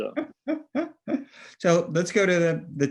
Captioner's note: laughing